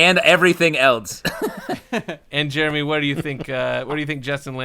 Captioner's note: laughter